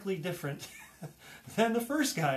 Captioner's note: laughs